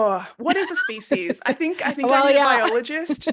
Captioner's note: laughing